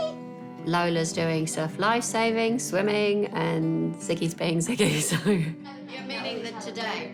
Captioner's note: chuckles